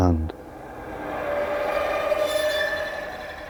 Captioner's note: reverberating screech